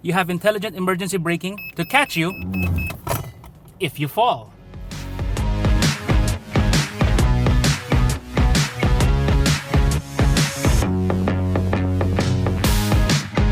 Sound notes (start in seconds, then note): 3.1 loud click; 4.7 upbeat music